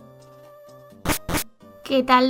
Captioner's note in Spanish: Sonido de puertas en juegos de Pokémon